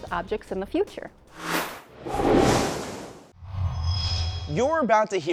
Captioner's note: sound Effects